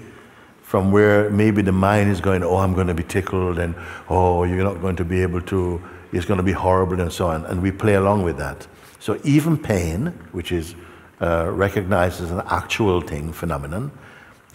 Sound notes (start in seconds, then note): none